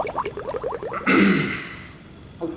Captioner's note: clears throat